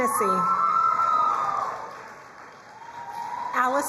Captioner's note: crowd cheering and applauding